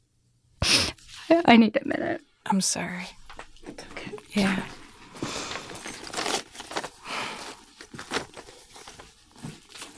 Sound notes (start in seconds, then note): 0.6 sniffles; 5.1 papers shuffling